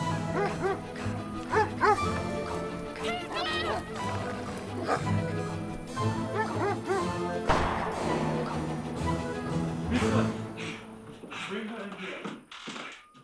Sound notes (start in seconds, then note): 0.0 dogs barking; 7.4 gun firing